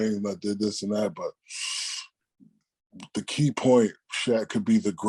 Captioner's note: sucks air